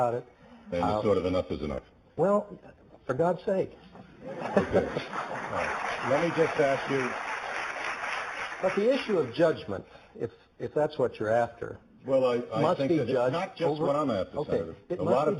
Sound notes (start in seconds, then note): 4.2 laughing; 4.6 applause